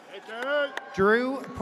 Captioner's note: audience cheers